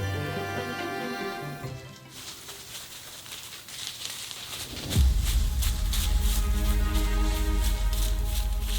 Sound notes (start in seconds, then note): 1.6 brush rustling